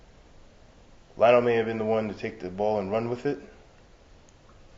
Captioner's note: none